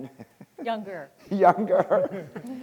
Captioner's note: laughing